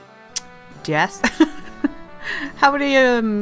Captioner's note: laugh